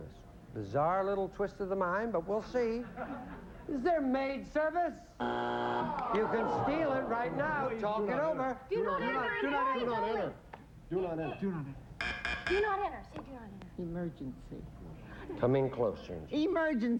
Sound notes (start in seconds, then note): 5.2 buzzer; 12.0 buzz buzz